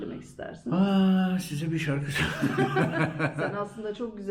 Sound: laughter

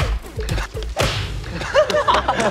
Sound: slap

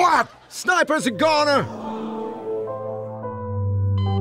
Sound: audience shocked

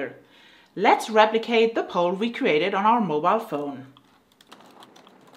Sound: fast typing

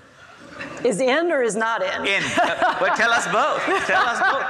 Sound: laughs

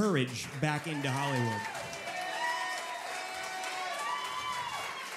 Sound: audience cheering

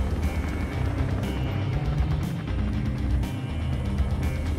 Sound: helicopter blades turning rapidly

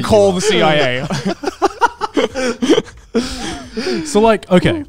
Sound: all laughing

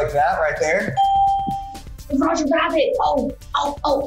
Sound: ding

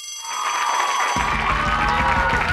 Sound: cheers

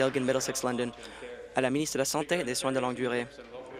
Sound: applause

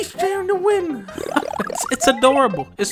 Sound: laughs

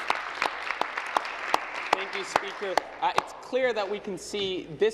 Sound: applause

